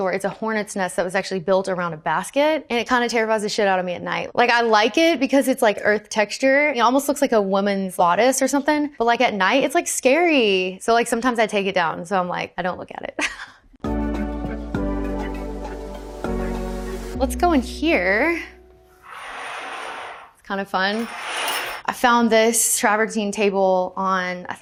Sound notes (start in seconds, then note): 13.8 upbeat music; 18.9 curtain track rattles